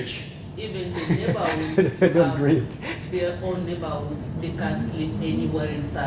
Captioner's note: laugh